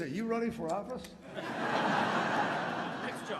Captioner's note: laughter